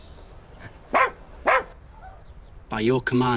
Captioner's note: barks